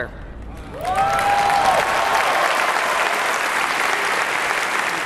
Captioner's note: audience cheering